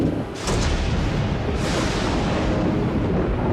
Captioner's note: thunder rumbles